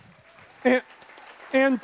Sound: audience applauds

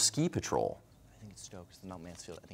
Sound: quietly

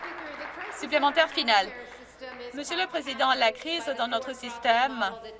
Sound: some Applause

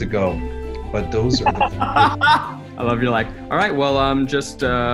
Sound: laughs

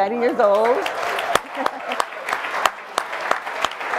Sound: crowd clapping

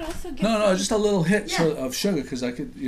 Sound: voiceover

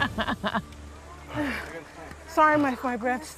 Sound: both breathing heavily

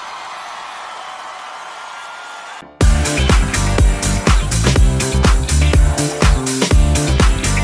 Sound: cheering

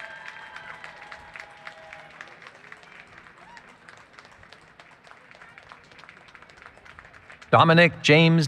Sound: applause, Cheering

